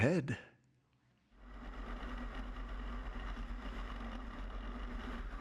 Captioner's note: airplane engine whirring